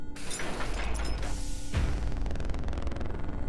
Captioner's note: objects banging; intense music